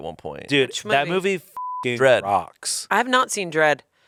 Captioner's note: beep